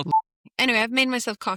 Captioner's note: boop